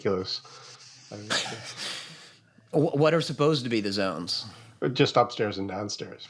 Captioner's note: laughs